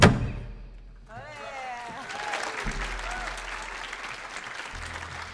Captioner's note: audience applauding